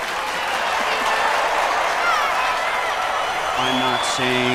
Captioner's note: audience cheering